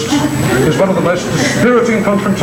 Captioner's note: crowd laughs